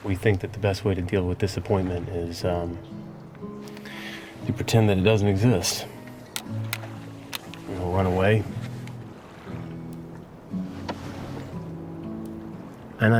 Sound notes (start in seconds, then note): 6.0 sunglasses clattering